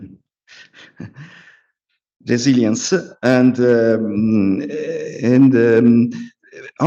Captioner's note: laughs